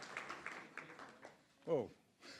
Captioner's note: applause